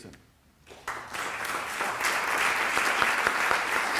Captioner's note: applause